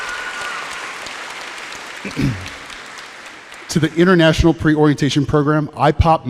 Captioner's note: applause